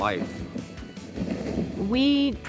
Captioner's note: fabric rustling